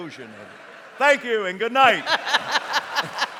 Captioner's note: audience laughs; laughs